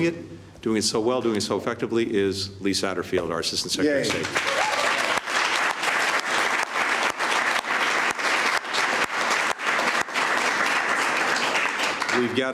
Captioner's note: applause